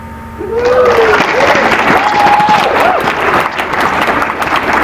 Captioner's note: applause